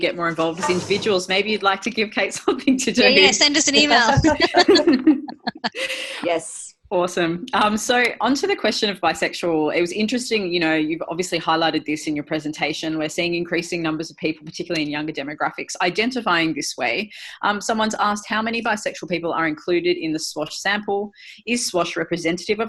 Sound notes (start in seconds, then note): 4.0 laugher